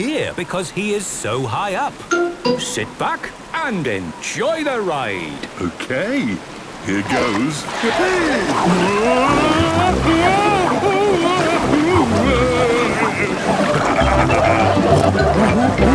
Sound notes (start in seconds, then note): 10.1 Daddy Pig shouting; 13.6 laughing, snorting